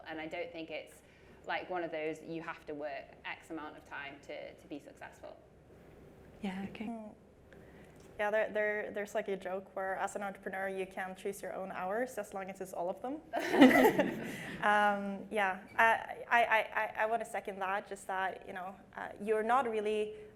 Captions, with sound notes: and I don't think it's like, one of those you have to work X amount of time to be successful. - Yeah, okay. - Yeah, there's like a joke where as an entrepreneur, you can choose your own hours, as long as it's all of them. (audience laughs) Yeah, I wanna second that, just that you are not really,